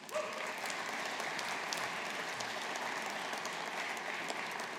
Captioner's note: audience applauding